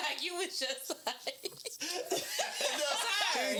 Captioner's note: laughing